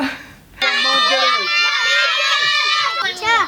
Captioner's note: yelling